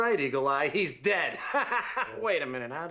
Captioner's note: laughing